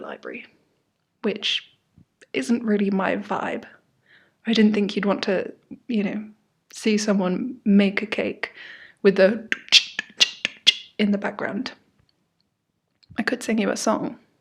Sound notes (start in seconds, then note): 9.5 imitates a drum and bass machine